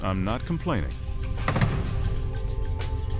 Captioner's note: broomsticks thudding; light rhythmic music